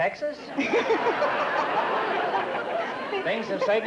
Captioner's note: laughter